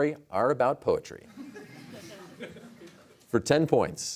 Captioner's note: laughter